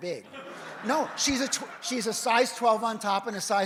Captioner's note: audience laughs